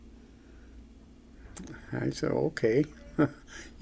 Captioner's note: chuckles